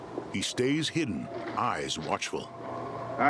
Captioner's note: footsteps rustling